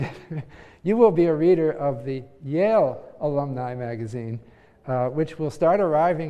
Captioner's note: laugh